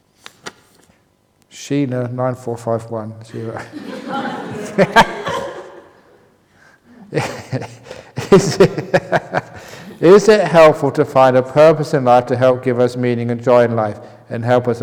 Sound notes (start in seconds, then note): 6.8 laughter